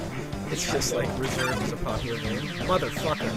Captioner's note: chuckling